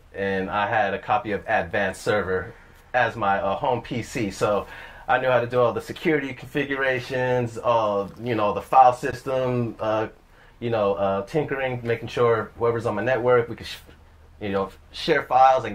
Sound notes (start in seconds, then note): none